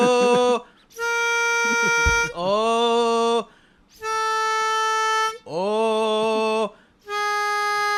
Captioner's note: pitch lowered